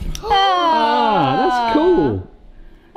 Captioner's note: cheering